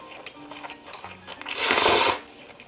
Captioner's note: slurrp